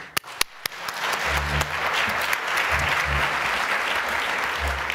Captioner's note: applause